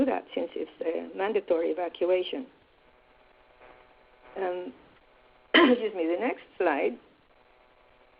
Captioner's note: coughs